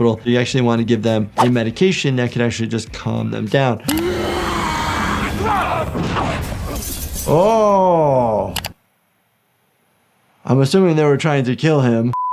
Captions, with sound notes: You actually wanna give them a medication that could actually just calm them down. (yelling) Oh. I'm assuming they were trying to kill him.